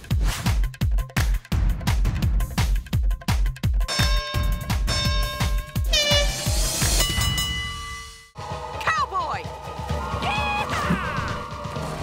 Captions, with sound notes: [horn blowing] Cowboy! Yeehaw!